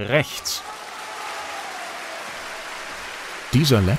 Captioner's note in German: Applaus, Zwischenrufe